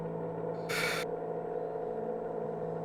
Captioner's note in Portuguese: suspiros